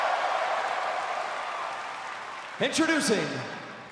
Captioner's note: crowd cheering